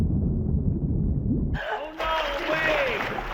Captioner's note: water bubbling; gasps